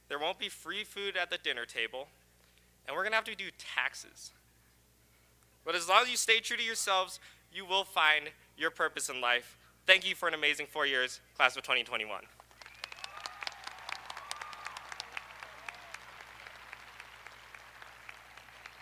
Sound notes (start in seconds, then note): 12.4 audience applauding; 12.6 audience cheering